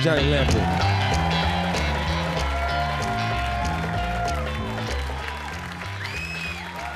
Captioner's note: upbeat jazz music; audience cheering